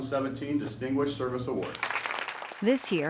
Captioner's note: applause